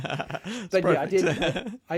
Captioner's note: laughing